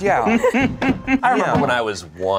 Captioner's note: laughs